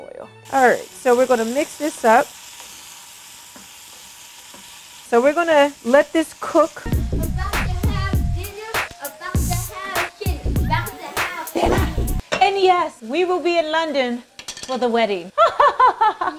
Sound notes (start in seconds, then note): 2.6 food sizzling; 6.9 hip hop music; 15.1 laughs